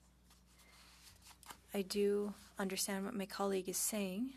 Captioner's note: speaking French